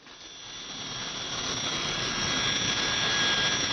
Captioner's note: plane engine whirring